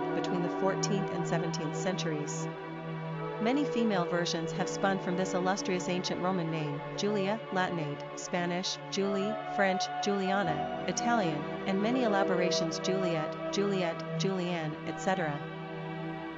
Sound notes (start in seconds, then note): 9.9 Italian